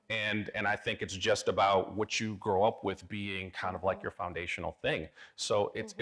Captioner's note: none